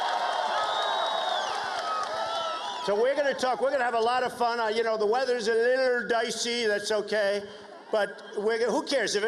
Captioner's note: cheers and applause